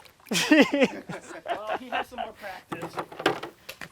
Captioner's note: everyone laughs